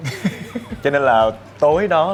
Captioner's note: laugh